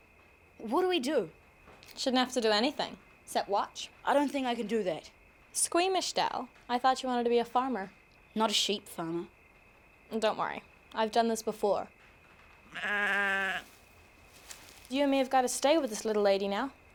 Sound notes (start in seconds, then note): 12.7 goat bleating